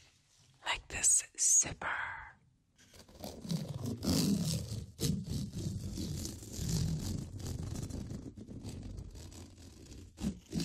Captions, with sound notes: Like this zipper. [pulling zipper]